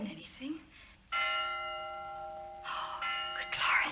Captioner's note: bell rings